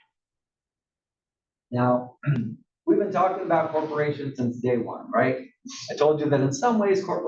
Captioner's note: cough